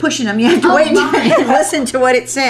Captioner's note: laughter